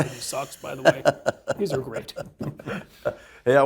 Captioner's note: laugh